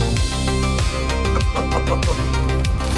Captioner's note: dad nervously chuckles at condensation